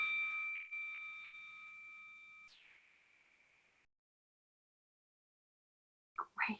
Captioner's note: bell ringing